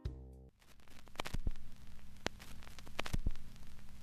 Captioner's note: crinkles